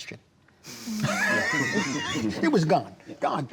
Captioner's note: laughs